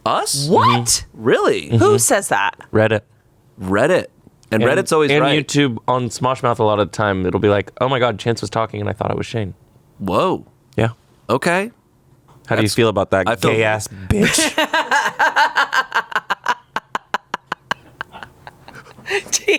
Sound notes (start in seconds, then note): 14.2 laughs